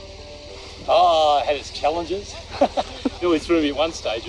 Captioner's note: laugh